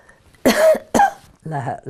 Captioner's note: coughing